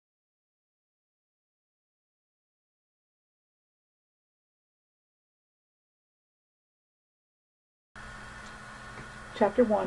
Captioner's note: silence